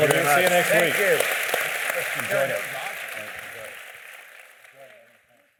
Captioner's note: applause